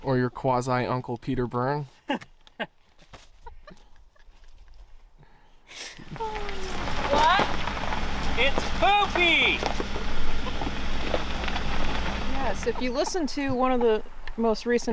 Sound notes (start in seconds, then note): 3.4 laughing